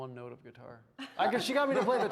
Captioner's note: all laughing